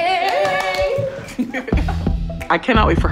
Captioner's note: everyone clapping